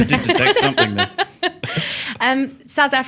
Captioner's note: laughing